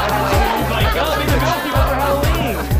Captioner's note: laughter